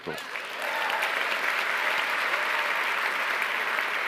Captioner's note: applause